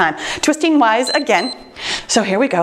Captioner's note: timer beeps